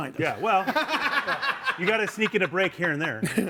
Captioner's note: laughs